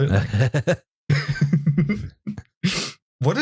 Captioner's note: laughter